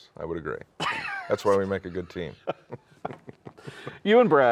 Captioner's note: laughs